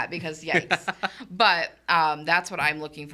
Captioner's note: laughing